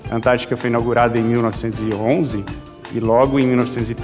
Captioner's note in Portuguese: none